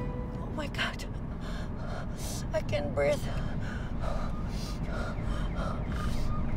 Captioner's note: panting